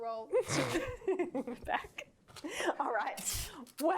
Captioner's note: laughing